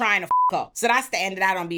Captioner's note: beep